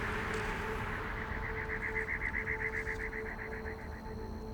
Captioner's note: insects chirping